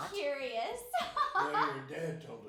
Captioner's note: laughing